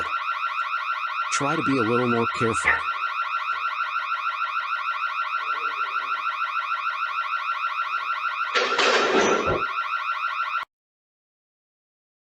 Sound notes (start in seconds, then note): 3.1 car alarm continues